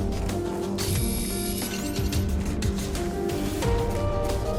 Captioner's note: laser whirring